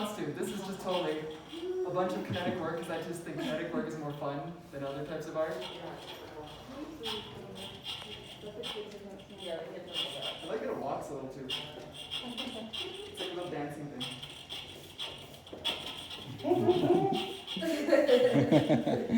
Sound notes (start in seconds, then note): 7.9 scritch scratch sounds